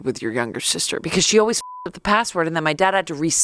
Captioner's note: beep